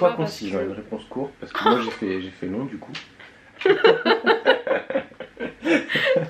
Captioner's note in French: rires